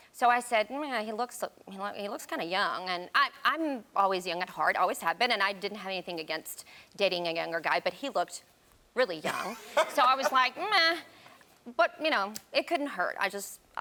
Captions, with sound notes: So I said, "He looks kinda young." And I'm always young at heart, always have been, and I didn't have anything against dating a younger guy, but he looked really young. (Karamo laughs) So I was like, "Meh." But it couldn't hurt.